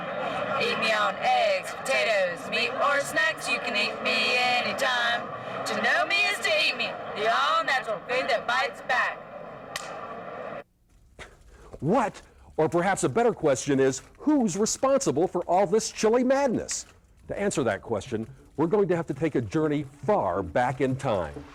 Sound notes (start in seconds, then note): 9.7 clap